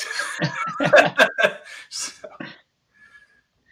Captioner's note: all laughing